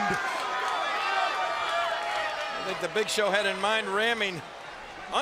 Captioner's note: applause